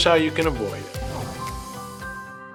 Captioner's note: screen whooshes; gentle upbeat music